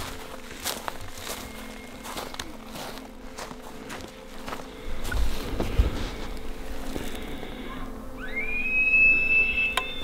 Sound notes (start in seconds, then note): 1.3 elk Bugling; 8.1 elk Bugling